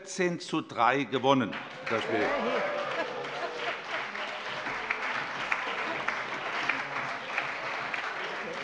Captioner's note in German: Allgemeiner Beifall